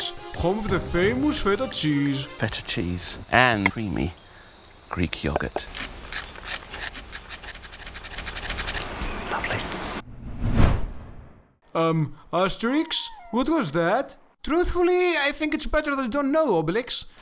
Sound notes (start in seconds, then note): 9.2 whispers; 10.0 whoosh sound